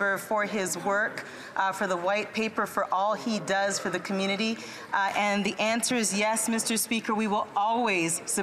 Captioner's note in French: voix de l'interprète